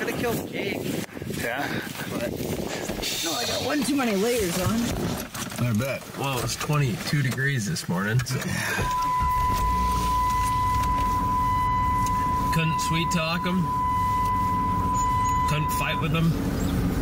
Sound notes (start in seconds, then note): 8.2 car beeping continuously